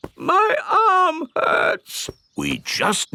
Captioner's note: in teddy's voice; in normal voice